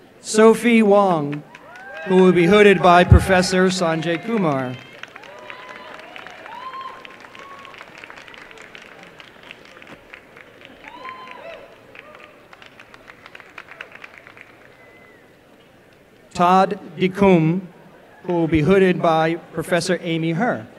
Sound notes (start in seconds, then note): 4.8 applause; 8.8 applause and cheering